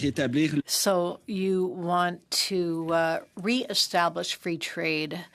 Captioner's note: speaking French